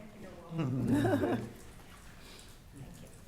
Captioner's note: attendees laughing